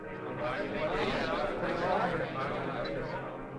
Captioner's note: crowd muttering